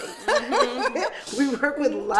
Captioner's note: laughing